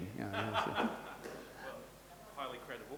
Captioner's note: laughing